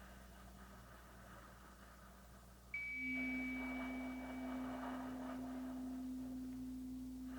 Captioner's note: chimes ringing continues; slow breathing continues